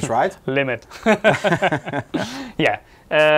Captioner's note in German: lacht